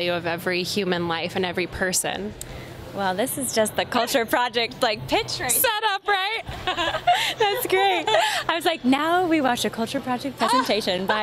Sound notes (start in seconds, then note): 6.4 laughing